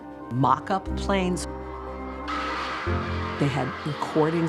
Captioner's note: screaming